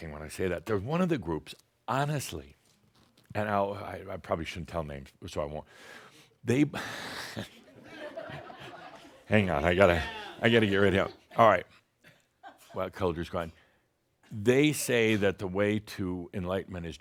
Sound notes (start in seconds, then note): 7.4 chuckles and some audience laughter